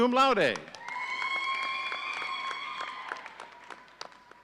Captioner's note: audience cheering